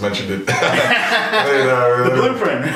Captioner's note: both laughing